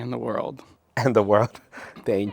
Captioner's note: laughing